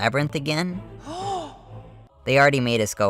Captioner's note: gasp